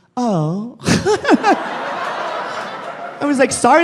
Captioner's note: laughs; audience laughing